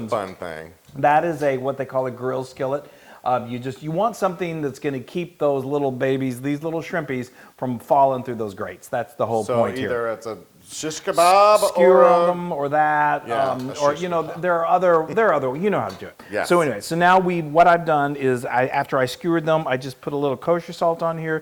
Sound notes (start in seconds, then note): 13.9 laugh